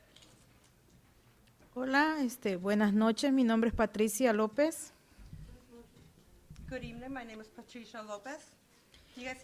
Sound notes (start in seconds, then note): 2.0 speaking Spanish